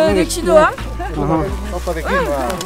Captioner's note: laughs